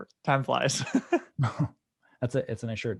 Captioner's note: laughing